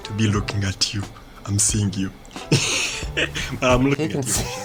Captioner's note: chuckles